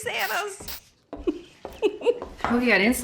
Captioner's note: giggling